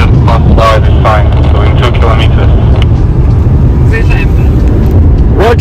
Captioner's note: radio